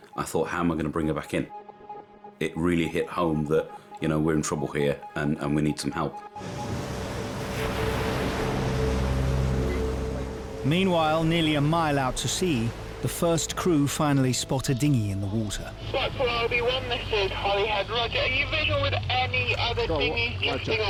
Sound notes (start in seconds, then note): 6.7 boat engine revving; 8.5 dramatic music